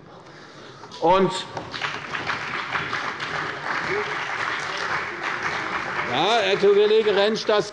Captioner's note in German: Beifall bei der CDU und dem BÜNDNIS 90/DIE GRÜNEN